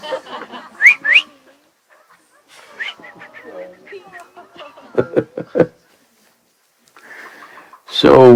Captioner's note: laughter; whistles